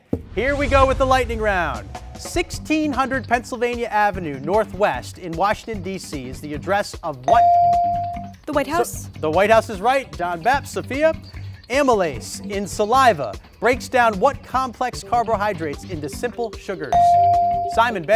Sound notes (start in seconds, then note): 7.3 ding; 16.9 ding